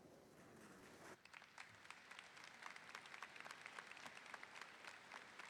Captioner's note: audience applauding